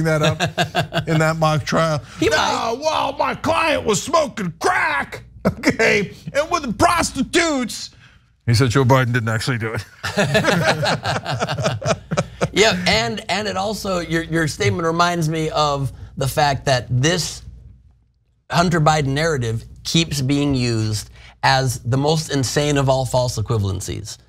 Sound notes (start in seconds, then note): 10.0 laugh